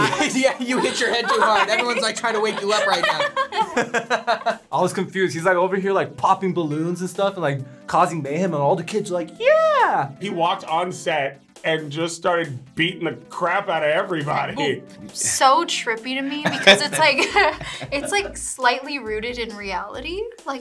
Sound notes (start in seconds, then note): 0.0 laughs; 3.1 both laugh